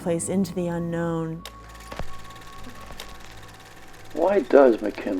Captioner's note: projector whirring